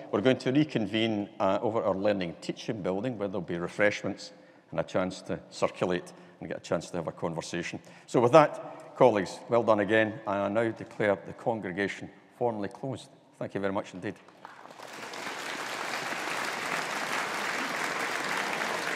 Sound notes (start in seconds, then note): 14.4 audience applauding